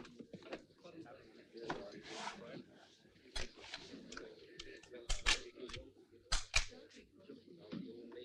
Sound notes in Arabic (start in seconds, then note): 6.3 نقرات البندقية